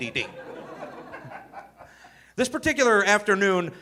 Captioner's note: audience laughing